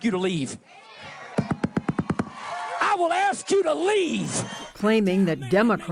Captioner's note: cheering and applause